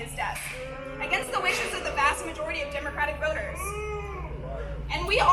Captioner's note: audience boos